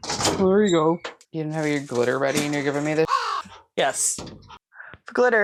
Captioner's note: caw